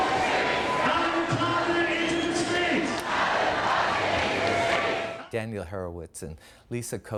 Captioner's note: chanting Continues